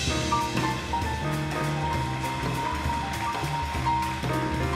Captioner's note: audience applauding